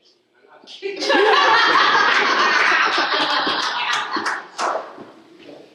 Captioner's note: laughter